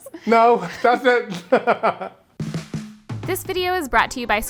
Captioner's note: laughs